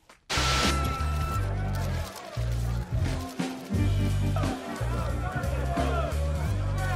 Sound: flash bulbs bursting; photographers yelling

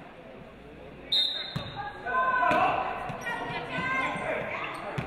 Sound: referee blows whistle

